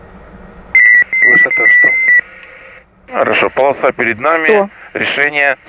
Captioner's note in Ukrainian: Звук відключення автопілота